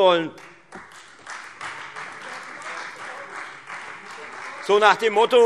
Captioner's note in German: Beifall Freie Demokraten